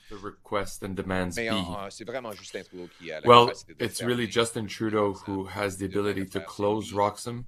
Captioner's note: speaking French